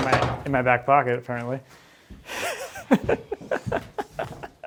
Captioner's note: laughs